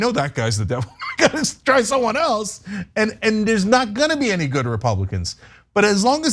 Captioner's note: laugh